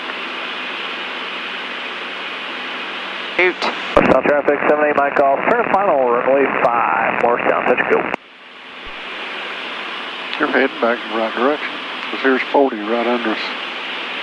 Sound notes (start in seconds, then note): 4.2 staticky radio chatter